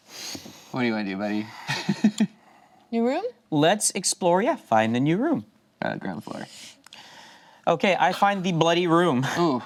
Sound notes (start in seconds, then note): 1.6 laughs